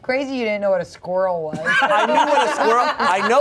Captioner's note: everyone laughs